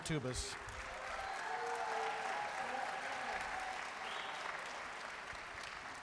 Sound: audience cheering and applauding

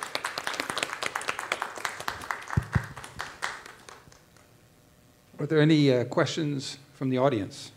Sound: applause

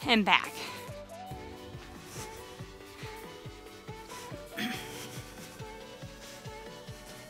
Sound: soft upbeat music; breathes

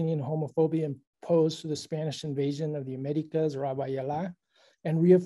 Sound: spanish

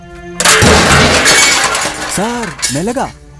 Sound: thuds

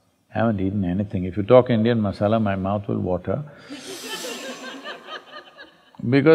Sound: laughter

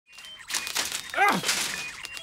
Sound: grunting

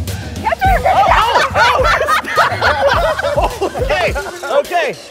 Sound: shouting and laughing

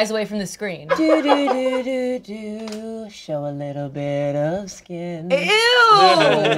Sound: humming melodically

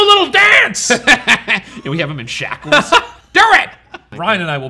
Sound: laughs

